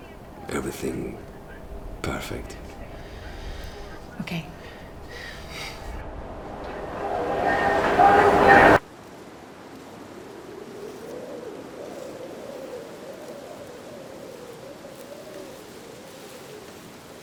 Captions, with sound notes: everything perfect. Okay. [ambience rising] [gentle breeze]